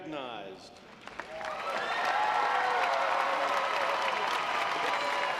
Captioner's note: audience applauds